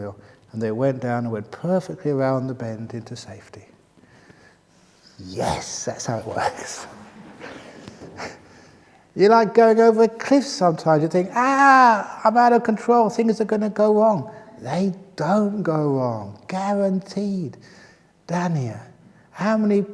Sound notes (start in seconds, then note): 6.0 laughs